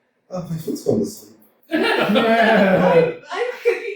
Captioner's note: laughter